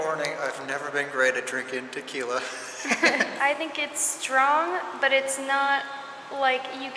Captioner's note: laughter